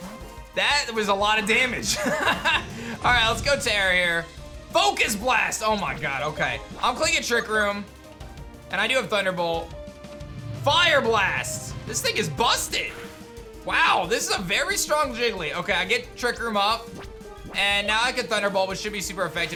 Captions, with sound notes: That was a lot of damage. (laughs) All right. Let's go Terror here. Focus Blast. Oh my god. Okay. I'm clicking Trick Room. And I do have Thunderbolt. Fire Blast. This thing is busted. Wow. This is a very strong Jiggly. Okay. I get Trick Room up. And now I can Thunderbolt which should be super effective